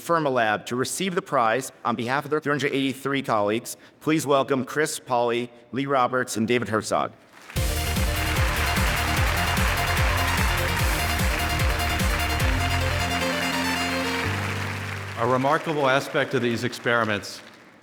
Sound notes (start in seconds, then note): 7.3 audience applauding; 7.6 bright music